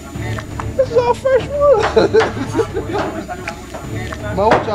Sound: laughter

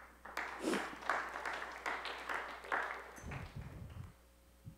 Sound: applause

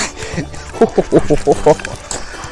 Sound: laughs

